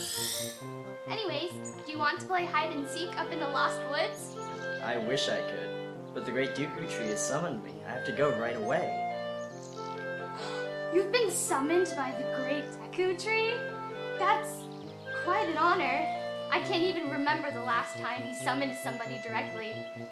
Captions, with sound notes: Anyways, do you want to play hide and seek up in the lost woods? I wish I could, but the Great Deku Tree has summoned me, I have to go right away. (Gasp) You've been summoned by the Great Deku Tree? Thats quite an honor! I can't even remember the last time he summoned somebody directly